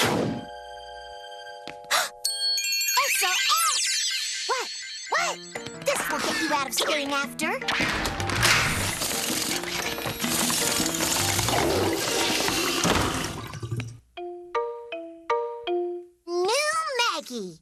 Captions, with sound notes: HUH! ¡ESO ES! WHAT? WHAT? THIS WILL GET YOU OUT OF STAYING AFTER! [WHIRRING AND CLANGING] [TOILET FLUSHES] NEW MAGGIE!